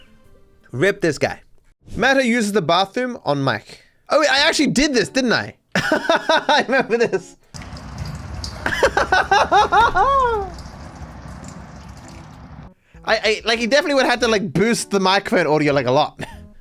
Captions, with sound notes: RIP this guy. Oh, wait I actually did this, didn't I? [Laughing] I remember this! He definitely would have to, like, boost the microphone audio, like, a lot.